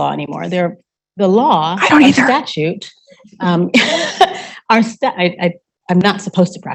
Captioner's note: laughing